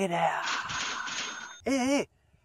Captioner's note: money sounds